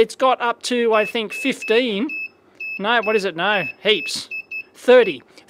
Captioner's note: beeps